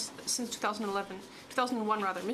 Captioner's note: speaking french